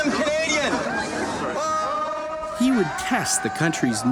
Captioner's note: crowd cheering and singing